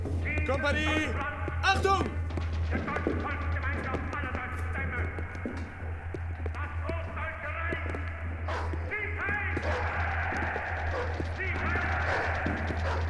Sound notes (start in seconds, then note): 3.8 speaking german; 8.4 dog barking